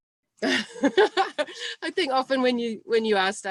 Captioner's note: laughs